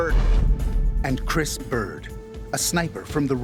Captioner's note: voiceover